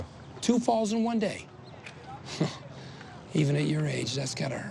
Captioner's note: laughs